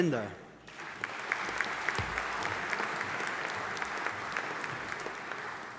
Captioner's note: audience applauding